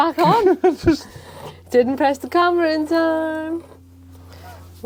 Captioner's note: laughing